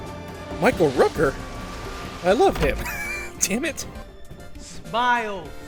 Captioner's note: wheeze